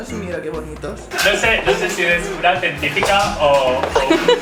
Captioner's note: they laugh